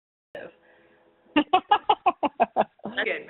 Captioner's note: laughs